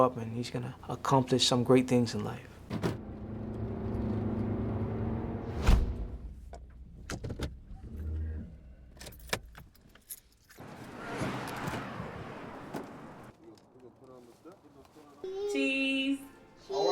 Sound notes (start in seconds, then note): 2.6 car doors shut; 2.8 car accelerating; 5.4 whoosh